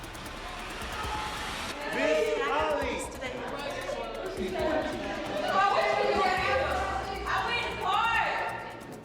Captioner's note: suspenseful music; inmates chattering